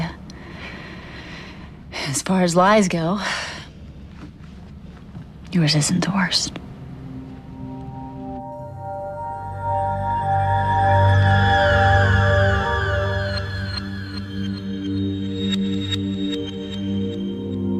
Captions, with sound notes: It was a mistake, Leah. [sighs] As far as lies go.. ...yours isn't the worst.